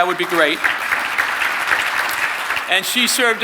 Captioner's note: audience clapping